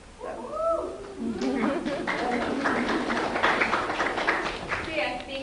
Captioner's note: applause